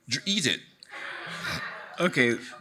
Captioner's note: audience laughing